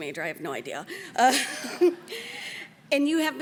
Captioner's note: laughs